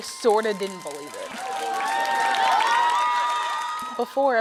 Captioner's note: cheering